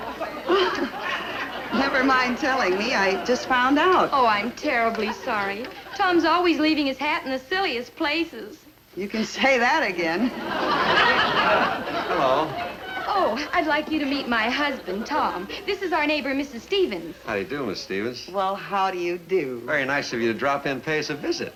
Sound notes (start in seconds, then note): 10.2 audience laugh